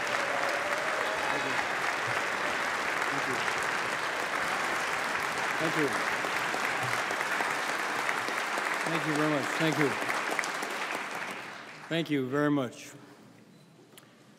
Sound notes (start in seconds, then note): 0.0 cheering; 1.3 applause